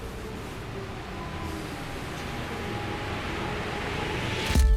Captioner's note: bus approaching